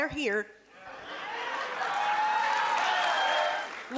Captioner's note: cheering and applause